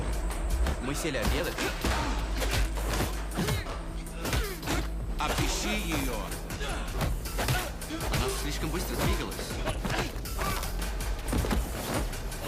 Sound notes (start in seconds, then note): 1.2 tense music; 1.3 blows thudding; 5.4 Russian agents speaking in a foreign language